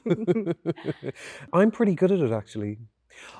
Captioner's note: both laughing